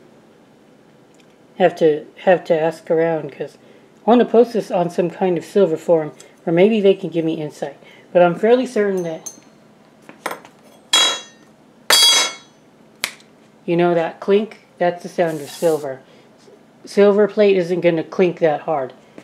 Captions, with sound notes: Have to, have to ask around because... I want to post this on some kind of silver forum, or maybe they can give me Insight. but I'm fairly certain that (ding ding) (Thud). (Clank) (Clank) (Snaps fingers) You know that clink? That's the sound of silver. Silver plate isn't going to clink that hard.